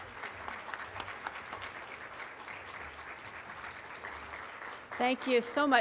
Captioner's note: applause